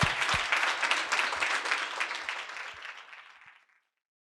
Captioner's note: audience applauding